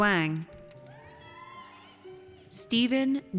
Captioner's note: audience cheers